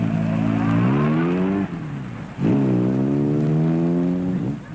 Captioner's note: engine roaring